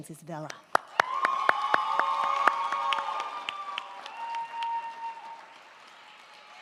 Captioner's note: crowd clapping; crowd cheering